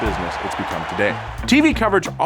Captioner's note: crowd cheering